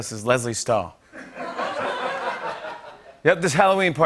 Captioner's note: laughter